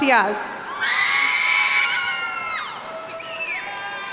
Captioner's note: cheering